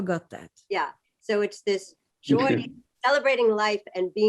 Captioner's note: laughter